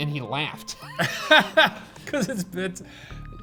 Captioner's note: laughing